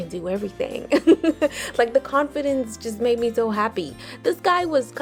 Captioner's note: laughs